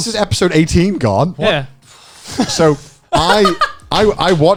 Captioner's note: laughs